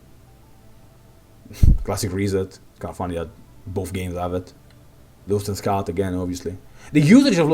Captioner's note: hrm